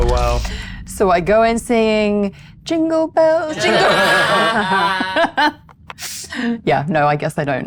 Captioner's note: laughs